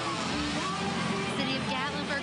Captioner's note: chainsaw screeching